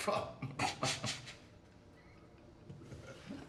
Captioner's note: laughs